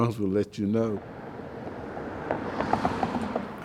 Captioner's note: car engine revving